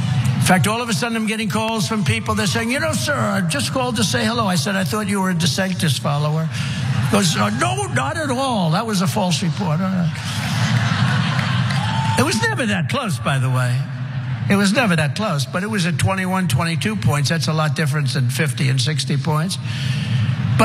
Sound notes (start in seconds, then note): 10.2 laugh